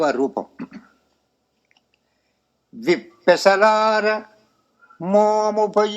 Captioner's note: clearing the throat